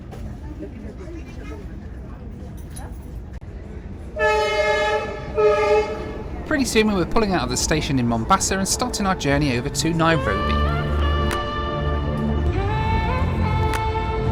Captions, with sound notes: (honking) Pretty soon we were pulling out of the station in Mombasa and starting our journey over to Nairobi. (bright music)